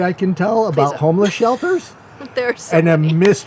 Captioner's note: laughs